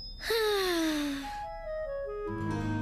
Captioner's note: sigh